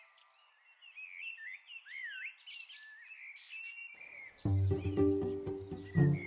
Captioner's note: birds chirp in the distance